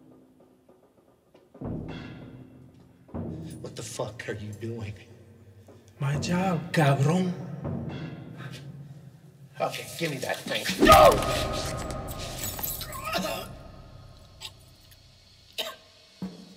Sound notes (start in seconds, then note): 10.6 warden groaning; 13.1 coughing